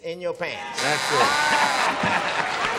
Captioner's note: buzzer; applause